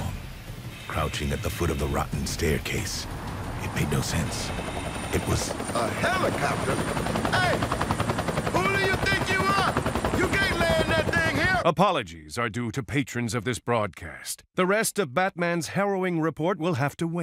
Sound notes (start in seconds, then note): 6.8 helicopter chopping